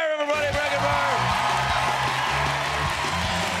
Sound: cheers and applause

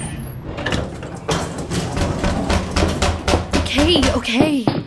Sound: knocking on door; footsteps

